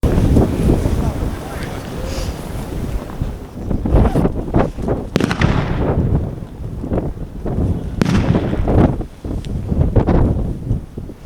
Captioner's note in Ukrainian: звук пострілів